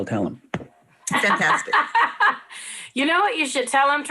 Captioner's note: laughs